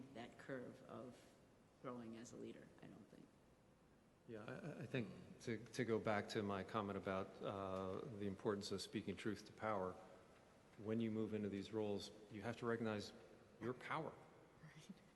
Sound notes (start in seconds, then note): none